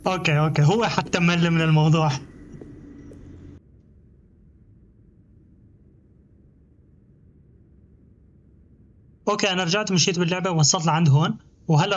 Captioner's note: footsteps; door creaks